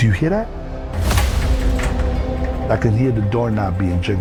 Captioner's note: tense ominous music; doorknob jiggling